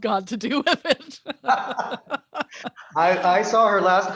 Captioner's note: laughter